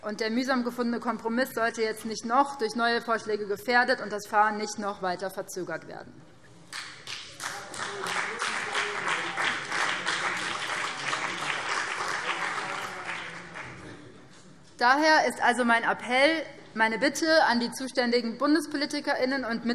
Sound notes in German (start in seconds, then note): 6.7 Beifall BÜNDNIS 90/DIE GRÜNEN und vereinzelt CDU